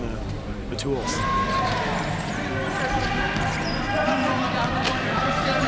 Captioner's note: players shouting indistinctly